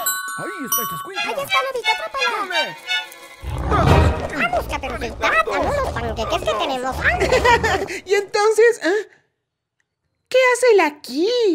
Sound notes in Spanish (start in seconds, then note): 3.4 Rugidos